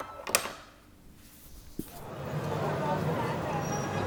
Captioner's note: key clattering; people chattering